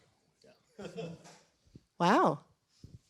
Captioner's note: laughter